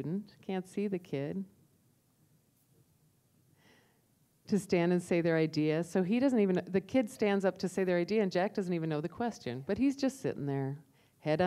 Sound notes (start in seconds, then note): none